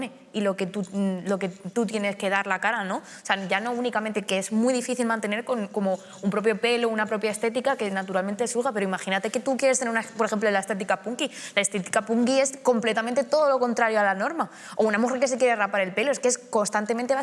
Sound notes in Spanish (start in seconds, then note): none